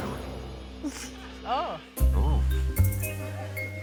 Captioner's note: comedians exclaim; sneaky music